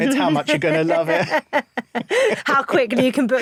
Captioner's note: both laugh